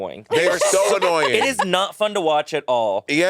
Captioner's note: laughing